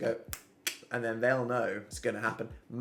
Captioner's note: clicks tongue